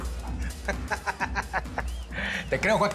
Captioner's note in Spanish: Risas